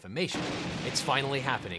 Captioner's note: loud boom